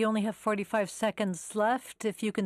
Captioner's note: speaking French